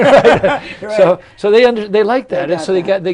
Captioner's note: laughter